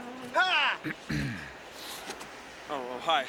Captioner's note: clears throat